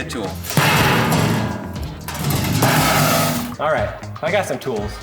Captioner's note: metal box clangs